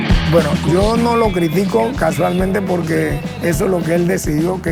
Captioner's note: singing in Spanish; upbeat rock music continues; speaking Spanish